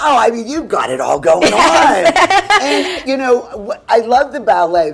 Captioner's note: laughing